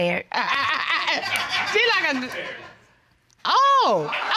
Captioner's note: laughing